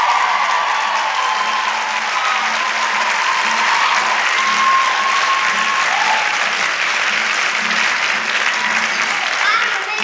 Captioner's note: lesbian Applause